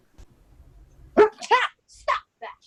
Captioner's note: screams; barks